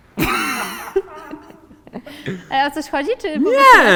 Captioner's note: is laughing, camera operator is laughing